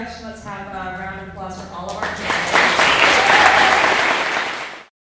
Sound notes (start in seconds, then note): 1.9 clapping